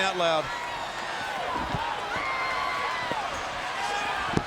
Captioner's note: crowd cheering